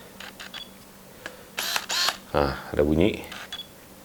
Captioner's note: beeping; buzzing